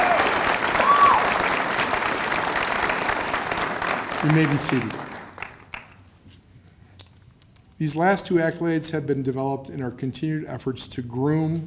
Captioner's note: cheers and applause